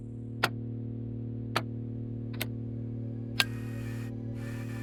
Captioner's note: buttons clicking; tape machine whirring